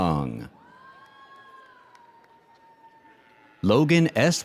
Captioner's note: audience cheers